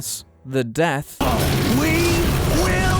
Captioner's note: metal grinding